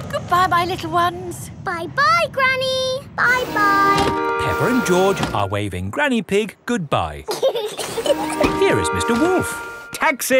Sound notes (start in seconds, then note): 7.2 both laughing